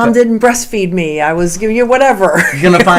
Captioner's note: laughing